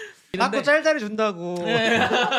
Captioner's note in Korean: 웃음